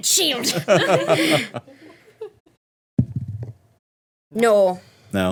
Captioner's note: everyone laughing